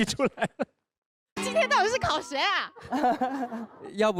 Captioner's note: pretty girl weeping